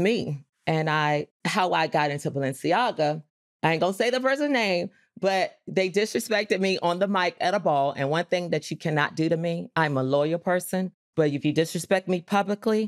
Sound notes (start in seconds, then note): none